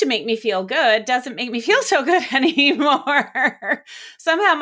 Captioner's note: laughs